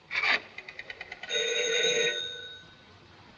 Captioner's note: phone rings